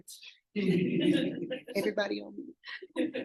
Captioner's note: laughter